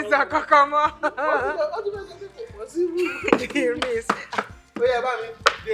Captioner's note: laughs